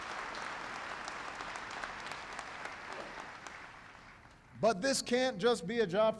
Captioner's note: applause